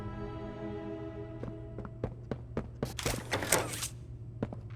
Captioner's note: footsteps